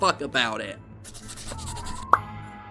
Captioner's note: pencil scratching